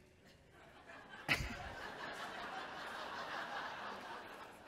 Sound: chuckles

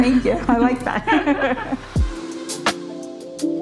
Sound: both laughing; smooth music

